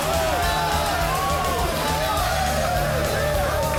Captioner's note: crowd; crowd cheering